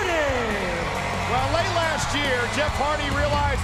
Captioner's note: audience cheering and clapping